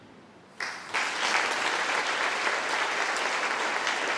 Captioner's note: applause